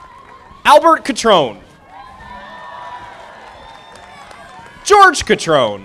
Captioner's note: audience applauding